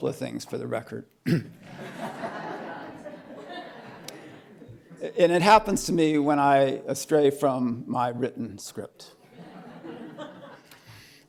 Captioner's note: laughter